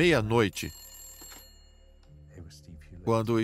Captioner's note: phone rings